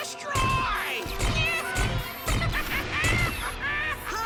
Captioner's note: evil laughter and explosions